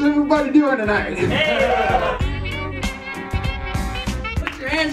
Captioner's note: applause